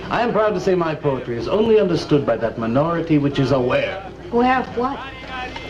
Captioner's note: continues In Russian